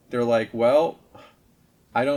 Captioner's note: sighs